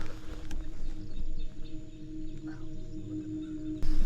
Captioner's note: bird noise